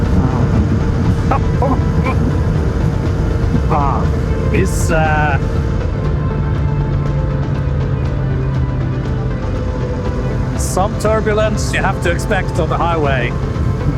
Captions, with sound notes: [LAUGH] This.... Some turbulence you have to expect on the highway.